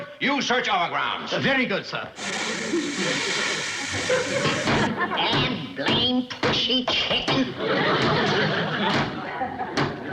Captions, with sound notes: Very good, sir. (tonic hissing) (banging at door) Dad-blamed pushy chicken!